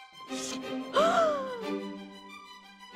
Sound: gasping

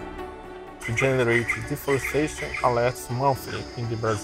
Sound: faintly speaking

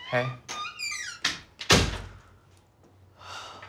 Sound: door closes; Sam sighs

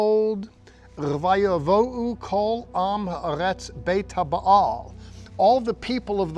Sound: speaking in Hebrew

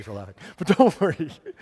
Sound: laughs

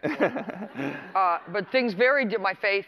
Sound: laughter

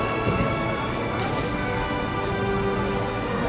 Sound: sniffles, sobs

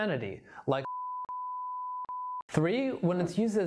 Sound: beep

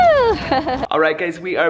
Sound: laughs

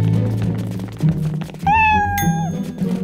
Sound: meowing

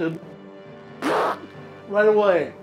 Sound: blowing nose

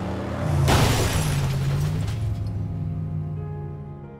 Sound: car crashing

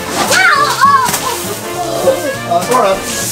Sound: grunts

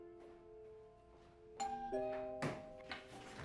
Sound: doorbell rings

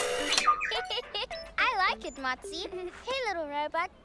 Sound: giggles

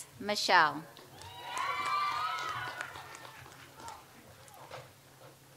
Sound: audience applauds

